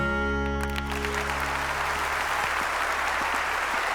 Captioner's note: audience applauding